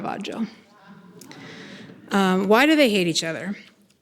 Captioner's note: people laughing